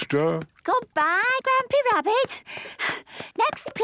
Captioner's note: panting